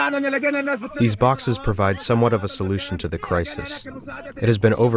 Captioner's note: through translator